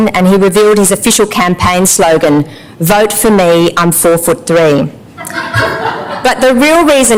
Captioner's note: laughter